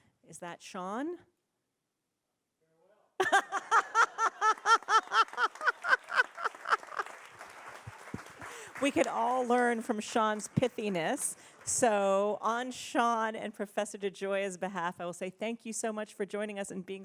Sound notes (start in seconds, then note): 3.2 audience laughing; 5.2 audience applauding